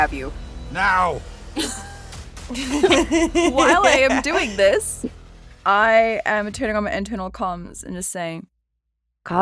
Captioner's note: chuckles